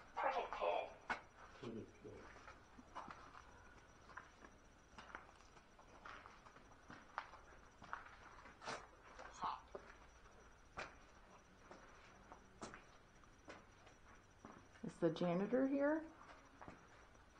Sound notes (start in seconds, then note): 4.8 footsteps; 11.6 footsteps